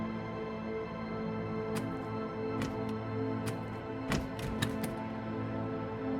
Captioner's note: rattling